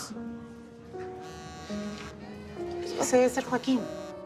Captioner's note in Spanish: Suena el celular